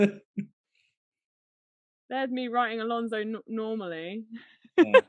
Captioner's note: laughing